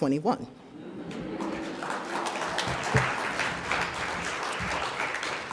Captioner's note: audience applauds